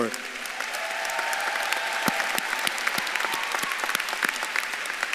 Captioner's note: audience claps and cheers